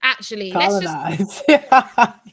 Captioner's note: laughs